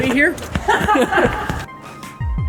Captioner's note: laughter